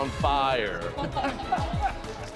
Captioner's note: laughing